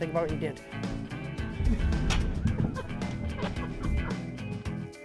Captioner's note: laughing